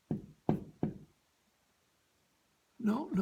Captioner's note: knock on door